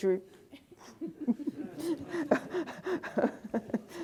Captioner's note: laughter